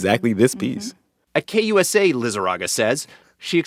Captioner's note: soundbite of archived npr broadcast